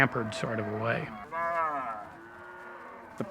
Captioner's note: cows mooing